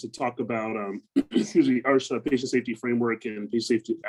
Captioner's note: clears throat